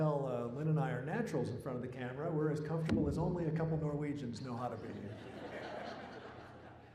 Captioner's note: laughter